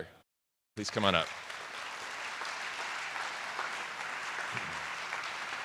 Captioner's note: attendees applauding